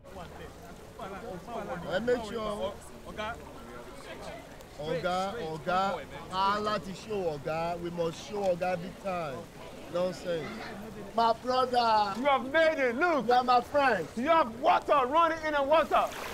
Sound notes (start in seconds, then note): 0.3 group chatting; 5.0 Baba speaking in Igbo